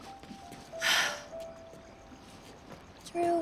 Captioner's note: sigh